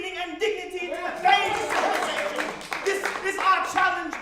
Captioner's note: congregation cheers